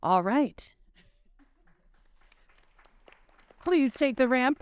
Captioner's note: audience clapping